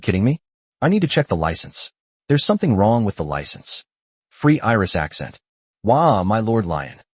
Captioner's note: Free Iris accent